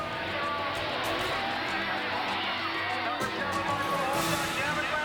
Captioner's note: audience cheering